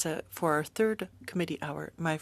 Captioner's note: speaking French